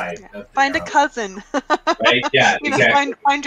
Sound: laughs

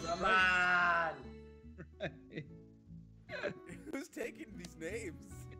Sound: laugh

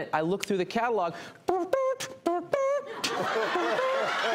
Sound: beatboxing; audience laughing

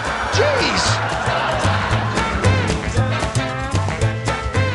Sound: laughter

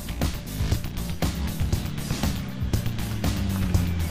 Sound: engine revving

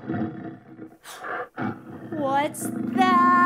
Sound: growling

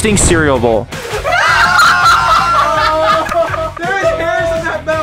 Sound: all laughing

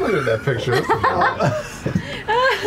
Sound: laughter

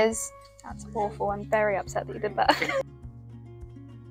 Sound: laughs

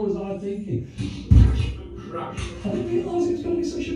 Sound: sarcastically

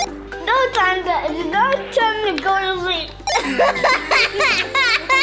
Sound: both laughing

